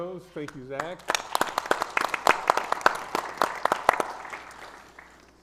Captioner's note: audience applauds